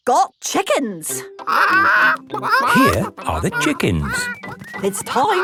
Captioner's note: clucking